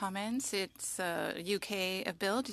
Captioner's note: speaking French